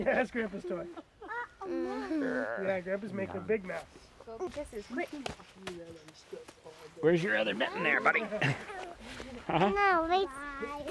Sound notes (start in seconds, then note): 1.9 chattering